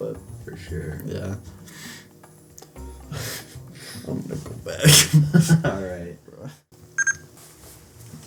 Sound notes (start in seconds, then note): 7.0 bebeep